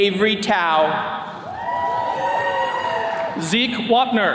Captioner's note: attendees cheering